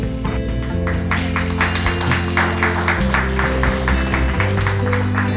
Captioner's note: cheers and applause